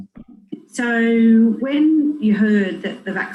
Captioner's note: recording plays